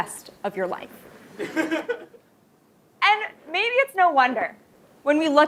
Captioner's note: laugh